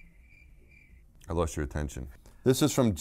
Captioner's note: crickets Chirping